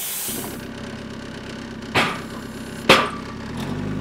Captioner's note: engine revving